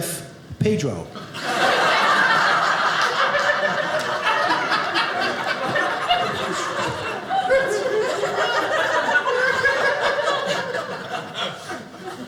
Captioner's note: audience laughing